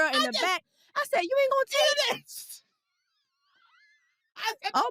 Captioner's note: laughs